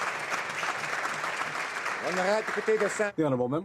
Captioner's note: applause